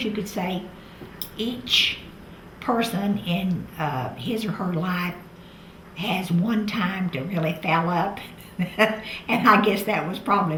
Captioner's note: laughs